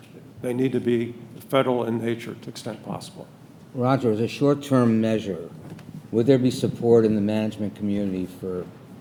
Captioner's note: none